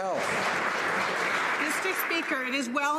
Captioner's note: some Applause